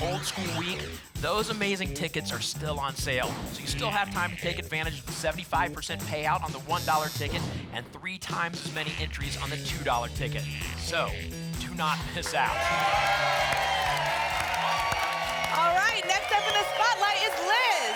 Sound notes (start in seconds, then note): 12.2 applause and cheering